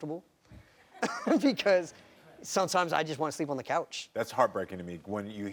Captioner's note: laughs